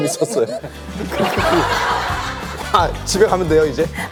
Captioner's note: haha; still laughing to the end